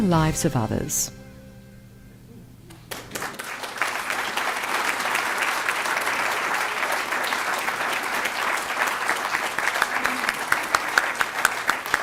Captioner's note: applause